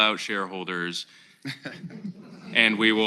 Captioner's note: laughter